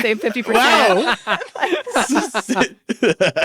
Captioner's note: all laugh